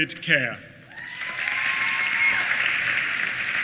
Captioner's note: applause